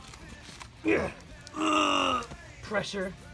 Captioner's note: grunts